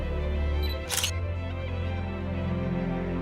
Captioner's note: camera shutter sound